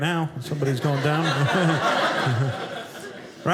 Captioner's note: audience laughing